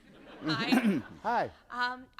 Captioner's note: laughter